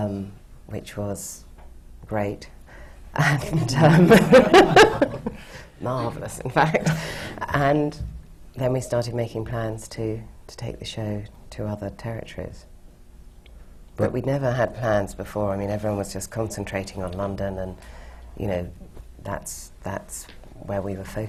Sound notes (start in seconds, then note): 3.4 laughter